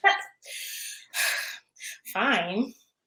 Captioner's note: sighing